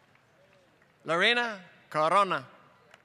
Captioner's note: applause